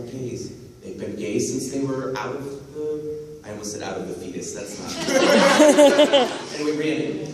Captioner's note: laughter